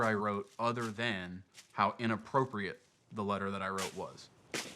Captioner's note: none